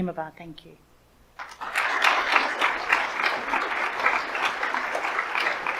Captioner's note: audience applauds